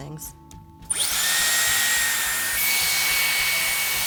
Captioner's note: dryer whirs